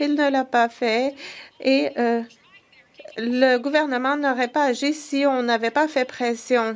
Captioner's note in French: voix de l'interprète